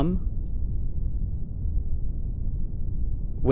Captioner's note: A quiet deep rumble